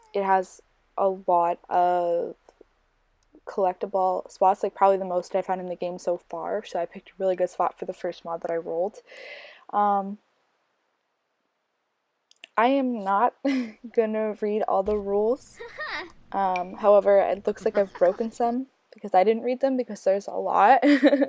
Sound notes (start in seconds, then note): 15.5 giggling